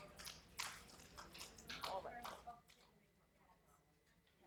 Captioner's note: applauding